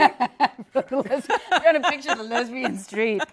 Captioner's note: laughter